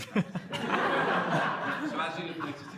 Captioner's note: laughter